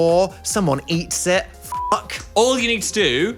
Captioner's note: beep